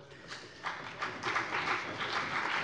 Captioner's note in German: Beifall CDU und BÜNDNIS 90/DIE GRÜNEN